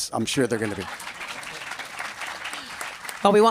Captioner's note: applause